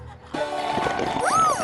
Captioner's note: gulp!